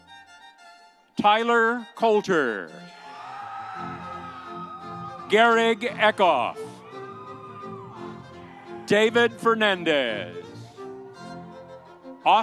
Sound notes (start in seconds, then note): 3.0 audience cheering; 10.6 audience applauding